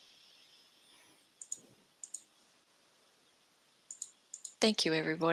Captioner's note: mouse clicking